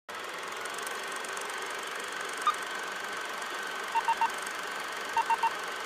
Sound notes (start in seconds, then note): 0.3 beeping; 0.3 reeling film